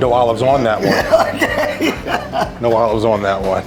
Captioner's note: laughing